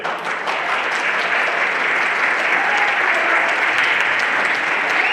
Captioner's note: everyone applauding